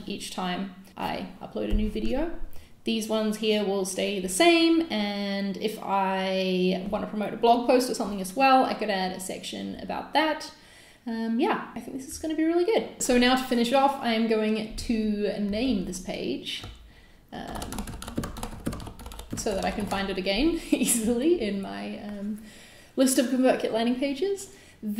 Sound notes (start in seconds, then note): 17.6 mouse clicks